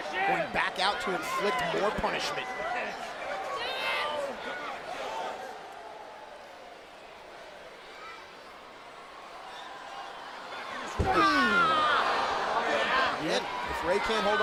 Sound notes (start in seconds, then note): 2.8 crowd cheering